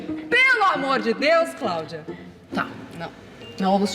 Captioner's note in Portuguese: grita